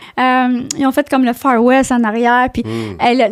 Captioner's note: in french